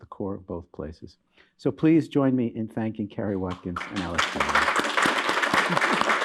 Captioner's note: applause